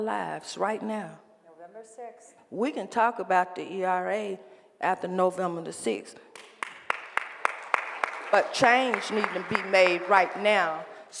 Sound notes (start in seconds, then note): 6.3 applause